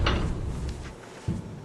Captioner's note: door